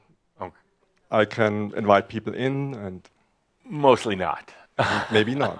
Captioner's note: chuckles